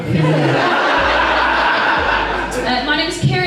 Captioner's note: audience Laughs